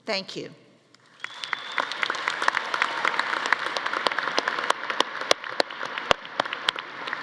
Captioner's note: audience applauding; audience cheering